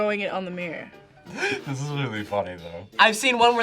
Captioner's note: laughs